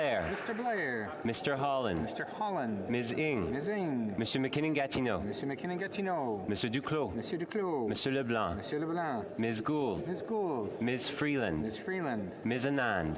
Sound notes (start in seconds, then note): 1.5 calling of recorded vote